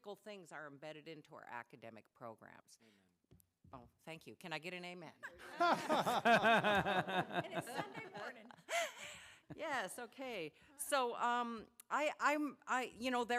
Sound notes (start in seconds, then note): 8.2 laughter